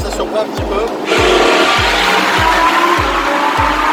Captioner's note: engine roaring